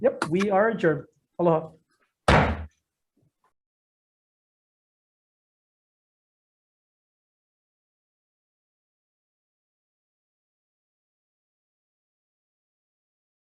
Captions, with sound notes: - Yep, we're adjourned, aloha. (gavel pounds)